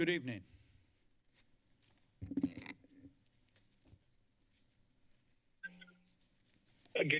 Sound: silence

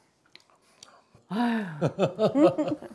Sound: sighing

